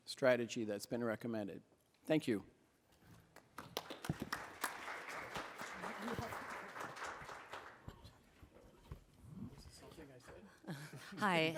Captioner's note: applause